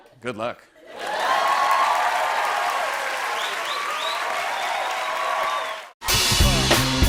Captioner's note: cheers and applause